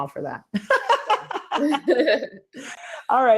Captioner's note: both laugh